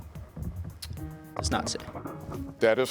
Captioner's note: students whispering